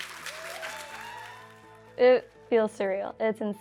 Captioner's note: cheers & applause